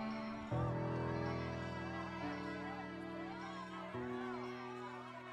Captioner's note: indistinct cries